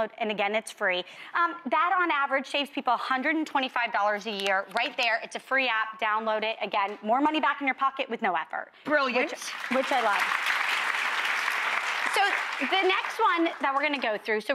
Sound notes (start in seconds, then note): 10.8 audience applauding